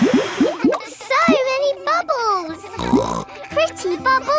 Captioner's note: all blowing; snorts